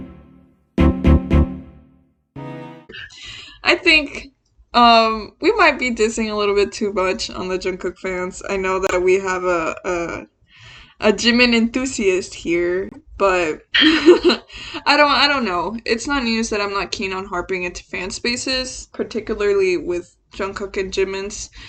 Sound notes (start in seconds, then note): 13.8 laughs